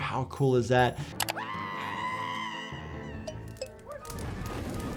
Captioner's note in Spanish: el grupo grita